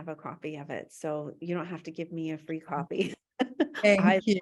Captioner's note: laughs